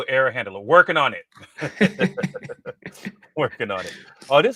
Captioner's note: laughter